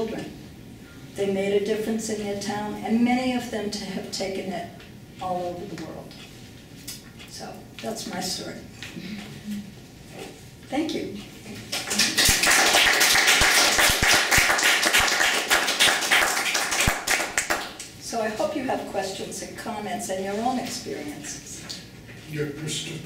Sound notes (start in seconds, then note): 11.7 applause